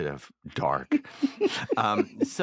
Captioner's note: chuckles